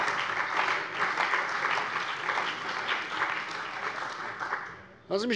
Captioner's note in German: Beifall bei der CDU und dem BÜNDNIS 90/DIE GRÜNEN